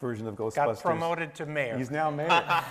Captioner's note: laughs